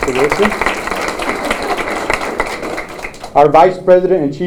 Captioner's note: applause